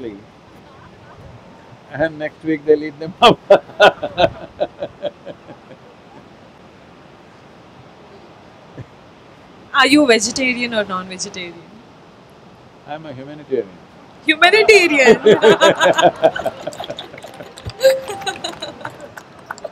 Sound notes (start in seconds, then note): 3.2 laughs; 14.4 laughs